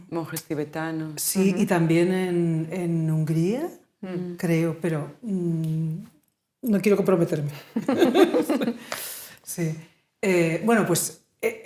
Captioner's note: laughing